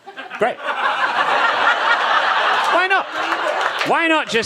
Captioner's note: audience laughs